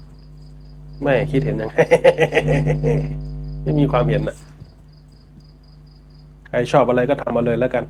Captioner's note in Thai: เสียงหัวเราะ